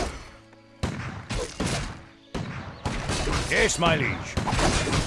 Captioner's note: cannons firing